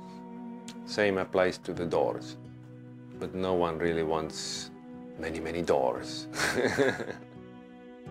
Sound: laughs

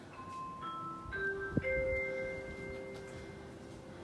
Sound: public address system: ding dong ding dong

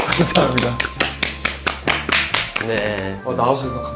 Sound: responding to the impressive self-introduction with applause

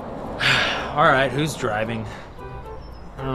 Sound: sigh

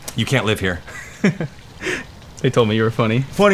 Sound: giggles

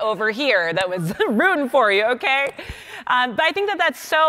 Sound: laughing

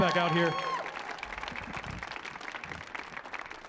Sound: cheering

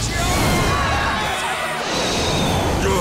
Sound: screaming; shrieking

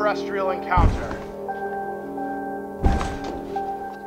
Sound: booming footsetps

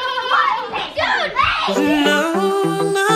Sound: screaming; upbeat music

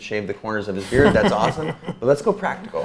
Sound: A.J. laughs

